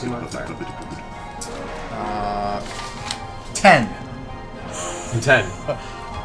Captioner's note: laughs